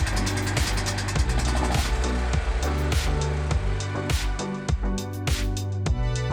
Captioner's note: generator putters and purrs; mellow music continues